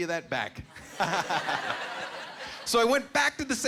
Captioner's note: laughing